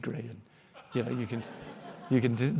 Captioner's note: audience laughing